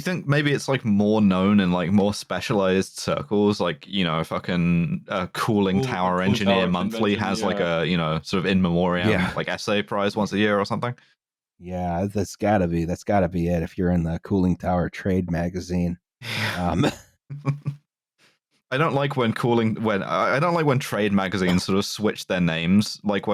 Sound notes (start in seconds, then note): 17.3 laughter